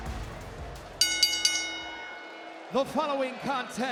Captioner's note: bell rings